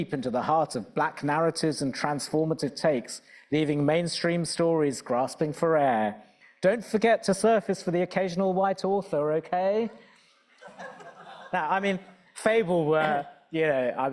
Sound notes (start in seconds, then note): 10.6 audience laughing